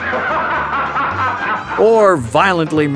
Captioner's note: bellowing laugh